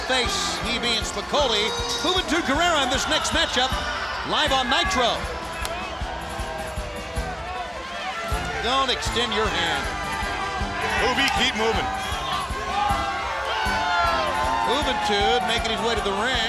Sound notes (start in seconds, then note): 5.2 crowd chatter